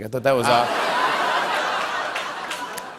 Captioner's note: laughter